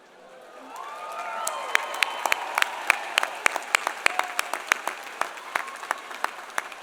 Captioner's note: audience cheering; audience applauding